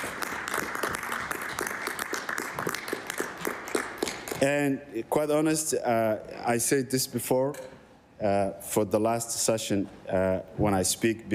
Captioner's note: applause